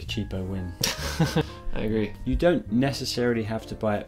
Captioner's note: laughs